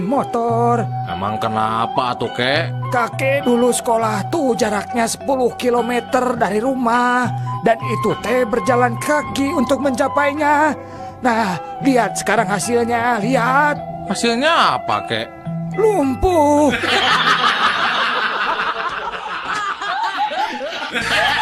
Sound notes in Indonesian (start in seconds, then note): 16.7 tertawa